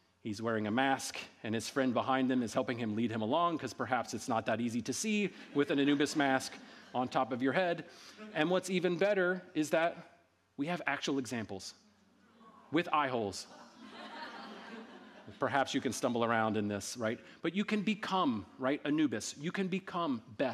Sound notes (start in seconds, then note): 13.4 audience laughing